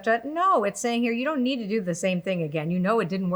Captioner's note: none